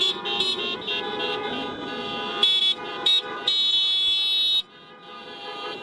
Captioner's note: horns beeping